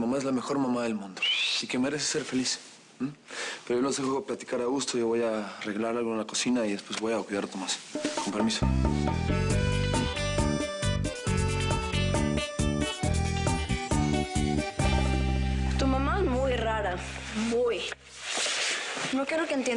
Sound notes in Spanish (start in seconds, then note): 1.2 Silbido